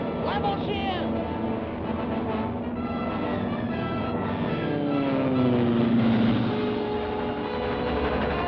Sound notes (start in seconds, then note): 0.0 Carr speaks foreign language; 4.7 engine hums